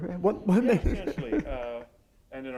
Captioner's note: chuckle